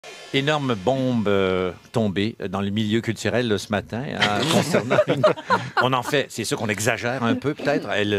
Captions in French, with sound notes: Énorme bombe tombée dans le milieu culturel ce matin. (éclat de rire) On en fait... c'est sûr qu'on exagère un peu peut-être.